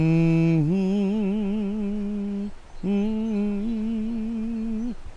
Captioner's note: gospel humming; water flowing